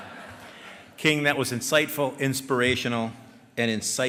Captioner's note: laughter